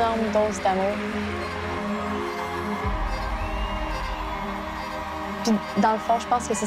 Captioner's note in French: acclamations